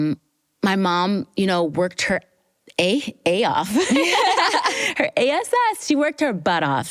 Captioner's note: laughs